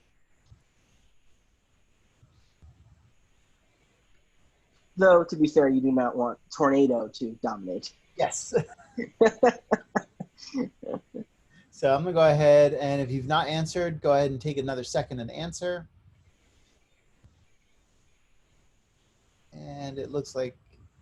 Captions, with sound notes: Though to be said, you do not want tornado to dominate. - Yes. (laughing) So I'm gonna go ahead and if you've not answered, go ahead and take another second and answer. And it looks like